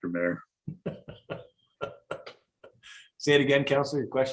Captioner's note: laughs